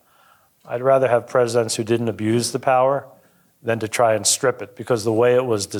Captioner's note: none